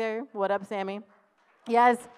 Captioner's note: applause